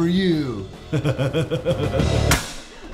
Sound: laughing

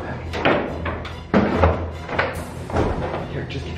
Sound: loud rustling

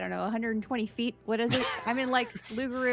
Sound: laughs

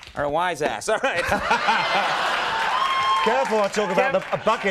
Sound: crowd laughs

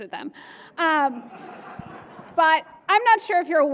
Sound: laughter

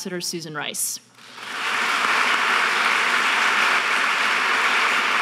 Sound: audience applauding

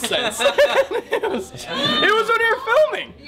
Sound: chuckling

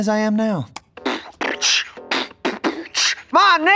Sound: beatboxing; rapping

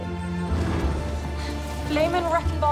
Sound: loud boom

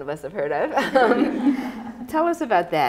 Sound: chuckling

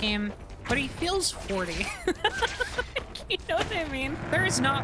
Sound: laughing

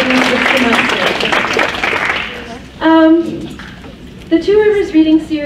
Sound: crowd applauds

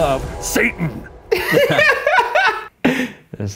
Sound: laughing

